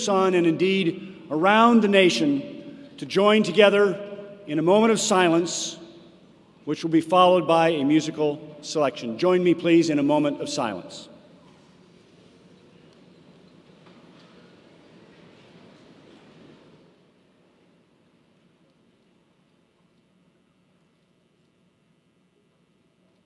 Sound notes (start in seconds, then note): 12.5 silence